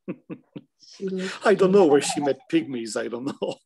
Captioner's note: giggling